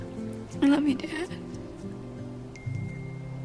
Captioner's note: tearfully